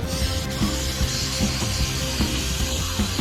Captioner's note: spraying sounds